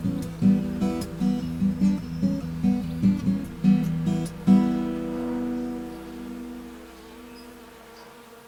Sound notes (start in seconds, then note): 3.3 bees buzzing